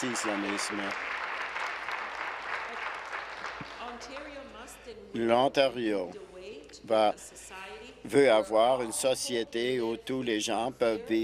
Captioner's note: applause